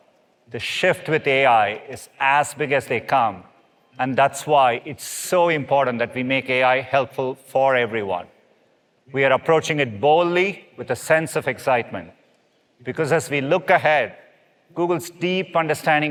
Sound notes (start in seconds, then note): none